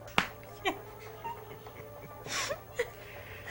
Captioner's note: chuckles